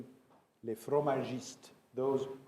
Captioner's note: speaks in foreign language